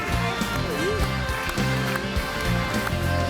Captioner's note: audience applauds and cheers; upbeat music